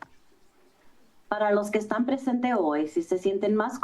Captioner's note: foreign language